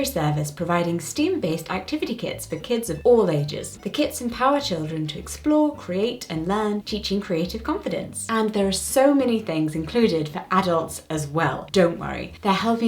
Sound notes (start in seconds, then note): none